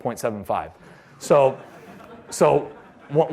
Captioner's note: laughter